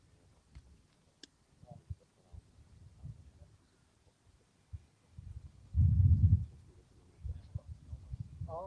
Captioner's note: indistinct chatter